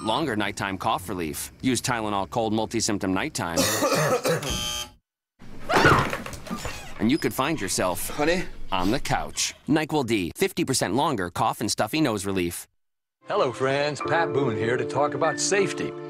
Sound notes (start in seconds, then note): 0.0 ding!; 3.5 coughs; 4.4 buzz!; 5.7 screams